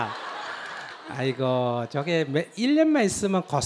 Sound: audience Laughter

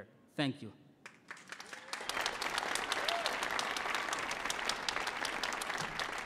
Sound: audience cheering and applauding

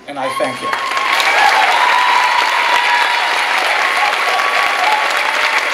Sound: clapping and cheering

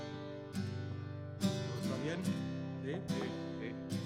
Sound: speaking spanish

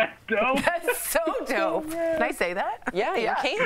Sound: laughter

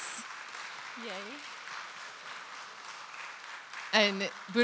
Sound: audience applauding

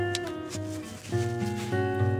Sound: sniff

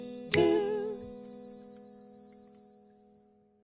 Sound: toot toot

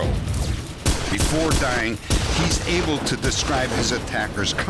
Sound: gun shots

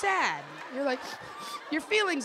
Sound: sniffles

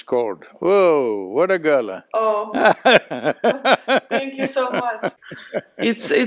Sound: laughs

